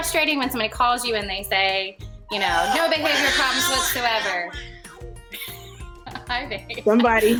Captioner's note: baby talking in background